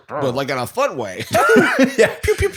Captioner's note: laughter